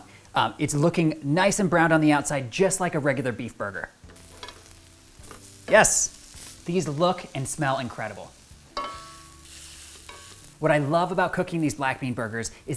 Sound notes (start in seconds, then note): 8.9 burgers sizzle